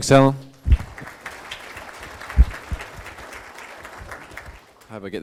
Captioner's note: applause